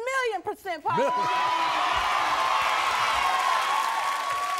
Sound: audience cheers

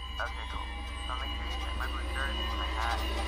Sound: voice trails; dramatic crescendo

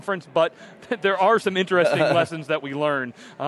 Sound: laughs

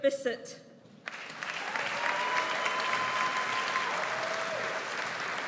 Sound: audience applauds

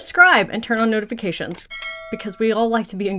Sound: bell ringing

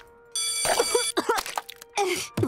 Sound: coughing

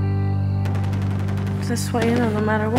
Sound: gunshots & explosions

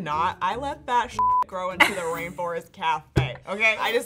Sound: beep

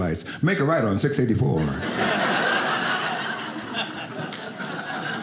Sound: audience laughing

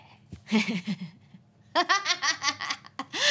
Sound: laughter

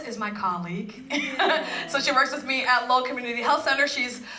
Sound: laugh

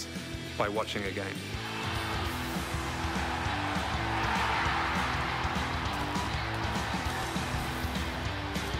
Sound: applause

